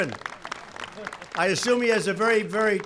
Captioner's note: applause